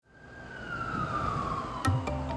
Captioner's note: traffic sounds